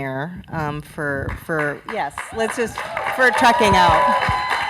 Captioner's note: clapping and cheering from crowd